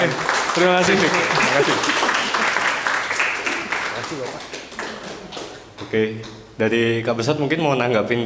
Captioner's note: applause